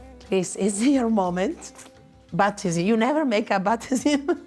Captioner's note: chuckles